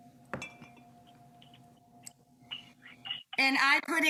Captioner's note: glass clinking